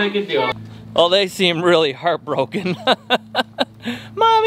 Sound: laughs

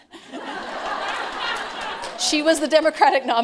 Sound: laughter

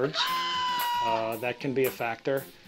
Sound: bird cries

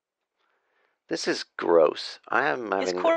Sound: laughter

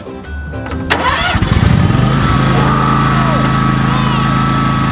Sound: engine revs

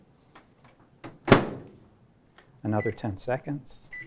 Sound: closing microwave; beeping

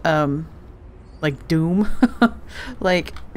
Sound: laughs

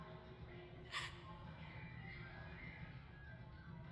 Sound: woman gasping

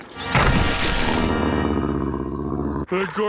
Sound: growling

